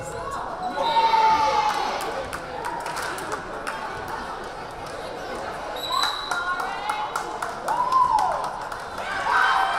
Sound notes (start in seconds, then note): 0.8 whistle blaring; 0.8 crowd cheering; 5.8 whistle blaring